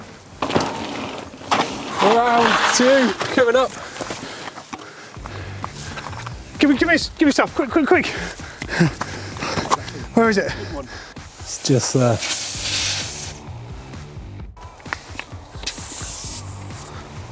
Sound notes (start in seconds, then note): 12.8 air hissing